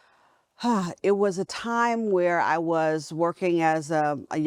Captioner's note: sighs